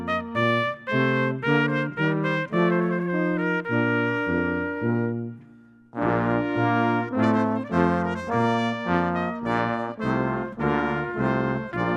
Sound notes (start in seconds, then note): none